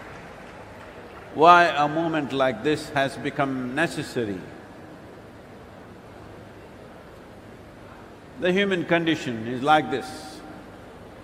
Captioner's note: applause